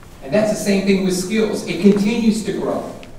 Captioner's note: none